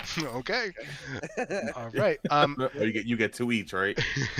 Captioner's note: laughter